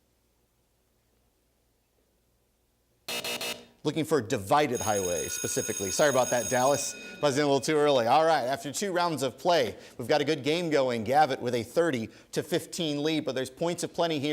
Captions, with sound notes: (three buzzes) Looking for divided highway, specifically. Sorry about that, Dallas. (bell ringing) You buzzed in a little bit too early. All right, after two rounds of play, we've got a good game going. Gavit, with a 30 to 15 lead,